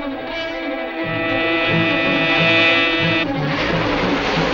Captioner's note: car buzzing